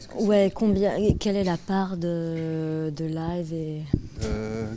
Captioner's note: speaking in French